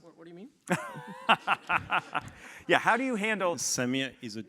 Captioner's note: laugh